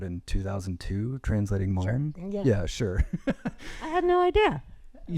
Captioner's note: chuckles